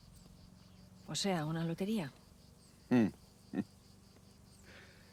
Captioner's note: chuckles